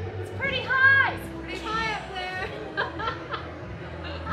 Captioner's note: laughs